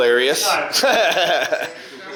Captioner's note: laughing